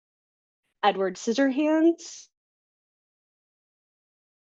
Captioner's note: audio cuts out